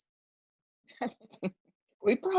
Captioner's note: chuckling